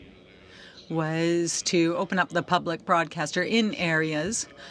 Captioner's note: speaking french